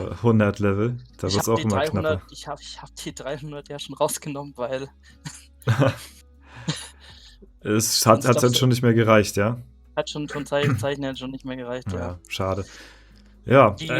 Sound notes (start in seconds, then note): 5.2 laughter